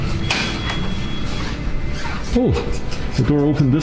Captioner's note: keypad beeping